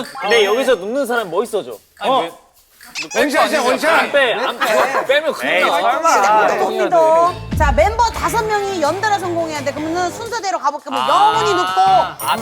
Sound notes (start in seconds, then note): 2.8 chitchatting